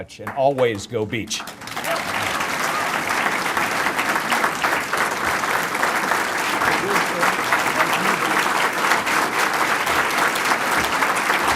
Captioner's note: applause